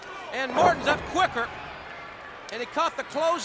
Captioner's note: body thudding